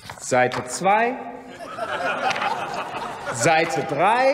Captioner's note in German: Heiterkeit und Beifall bei der FDP, der CDU/ CSU und der SPD